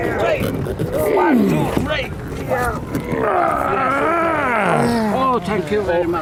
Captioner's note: grunting and straining